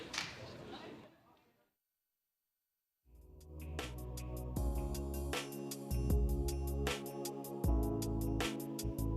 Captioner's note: applause